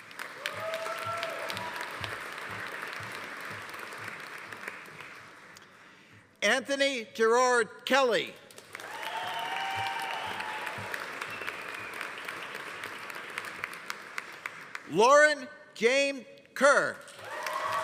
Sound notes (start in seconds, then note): 0.0 audience applauding; 0.1 audience cheering; 8.5 audience applauding; 8.8 audience cheering; 17.1 audience applauding; 17.2 audience cheering